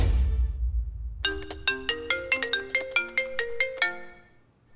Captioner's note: Phone ringing